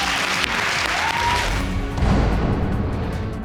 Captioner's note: audience applauds and cheers